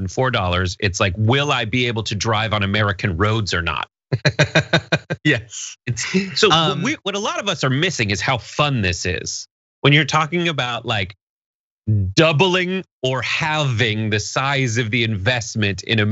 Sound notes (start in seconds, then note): 4.1 laugh